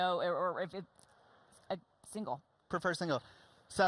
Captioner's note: stammering